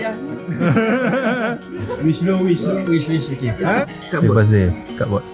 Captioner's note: laugh